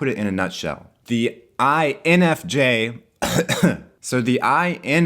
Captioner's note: coughs